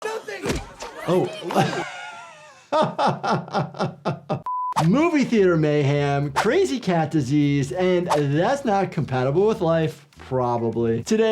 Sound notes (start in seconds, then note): 0.4 fist thumping; 2.7 laughs